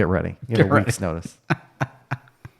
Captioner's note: laughing